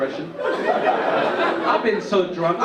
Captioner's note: audience laugh